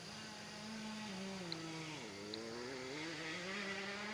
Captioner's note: motorbike revving